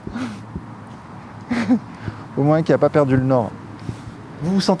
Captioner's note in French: rires